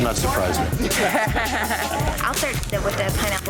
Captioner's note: laughter